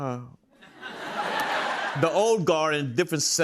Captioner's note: laughter